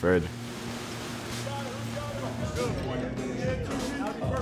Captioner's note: wheels whirring